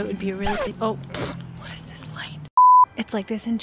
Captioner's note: record screeches; loud beep